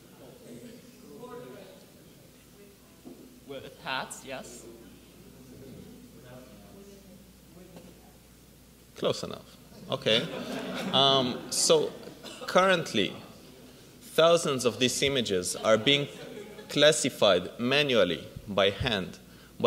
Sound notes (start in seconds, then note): 5.8 audience mumbles; 10.0 audience laughs